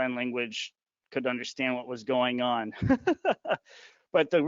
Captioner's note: laughing